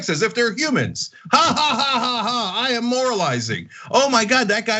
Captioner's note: laugh